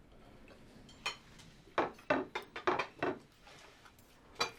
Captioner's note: silverware clinking